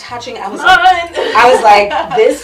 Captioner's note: laughs